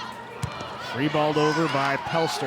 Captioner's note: ball thumping